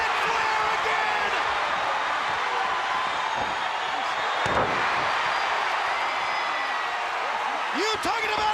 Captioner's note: crowd cheering